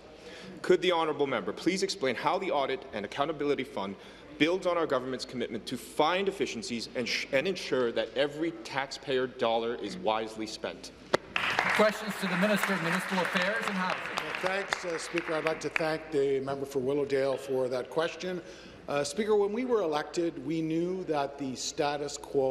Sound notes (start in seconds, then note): 14.4 applause